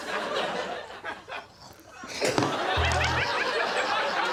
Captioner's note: audience laughs